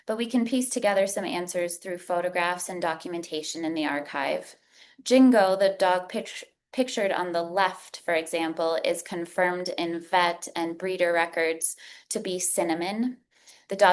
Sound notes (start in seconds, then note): none